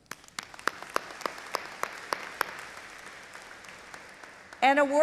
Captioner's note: audience applauding